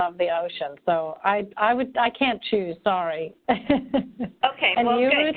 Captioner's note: laughing